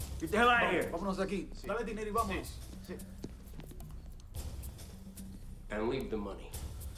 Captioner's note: gangsters speaking in Spanish